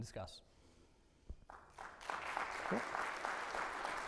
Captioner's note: audience applauds